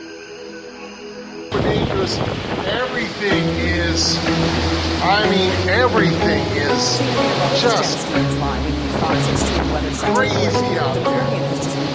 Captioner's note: television in background